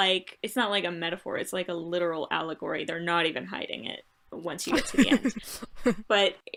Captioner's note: laughter